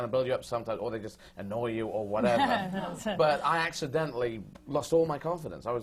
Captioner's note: sutton laughs